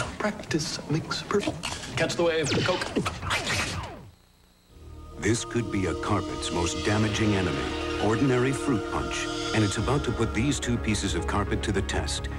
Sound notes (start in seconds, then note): 2.4 video game blast noise; 2.5 glitchy laugh